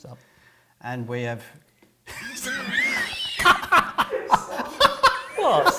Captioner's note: laughter; off-screen laughter